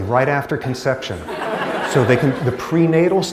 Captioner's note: laughter